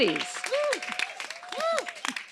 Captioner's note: audience applauds